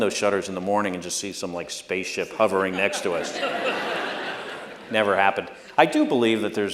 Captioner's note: laughter